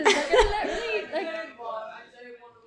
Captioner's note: both laugh